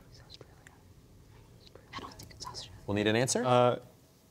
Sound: whispering

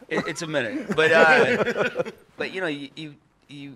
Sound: laughs

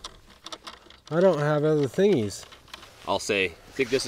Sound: bolt rattling

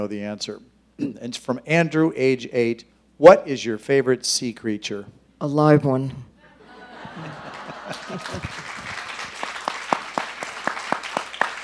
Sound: laughter, Applause

